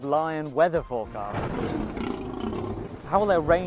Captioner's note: thunder, lion roar